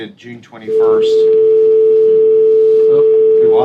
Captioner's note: loud tone